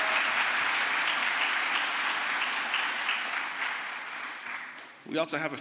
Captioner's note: crowd applause